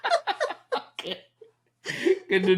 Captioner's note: laughing